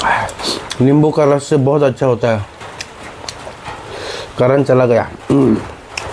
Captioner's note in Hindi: नाक से की जाने वाली आवाज़